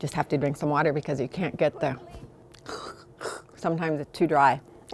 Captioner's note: makes throat sound